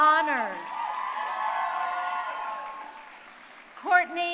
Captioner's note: crowd cheering